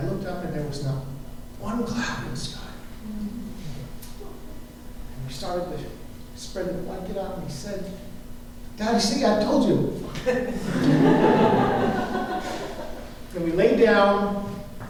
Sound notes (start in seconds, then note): 10.1 laughter